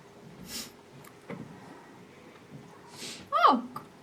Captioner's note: Elaine sobs